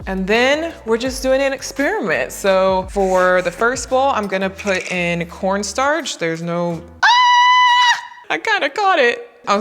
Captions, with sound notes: and then we're just doing an experiment. So for the first bowl I'm gonna put in (lid clatters) corn starch there's no (screams) I kinda caught it.